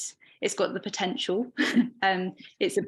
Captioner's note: chuckling